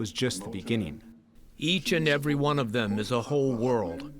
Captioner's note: through translator